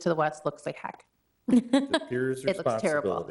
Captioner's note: laughs